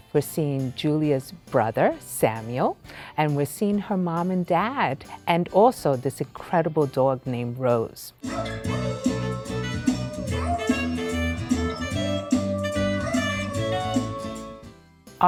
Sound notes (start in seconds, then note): 8.2 upbeat saxophone music; 8.2 dog howls